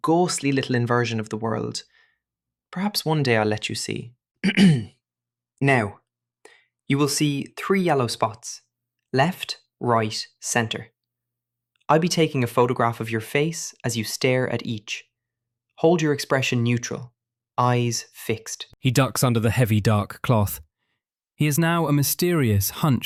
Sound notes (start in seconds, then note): 4.4 clears throat